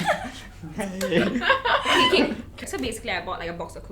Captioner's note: laughs